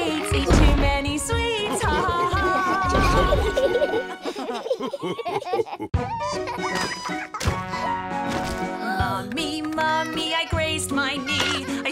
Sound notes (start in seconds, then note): 3.5 laughter; 8.7 singing